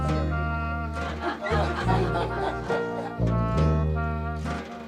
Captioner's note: everyone laughing